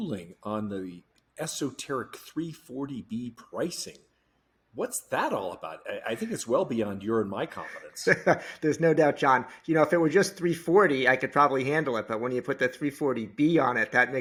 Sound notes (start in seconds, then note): 7.5 laughing